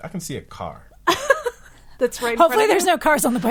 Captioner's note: laughing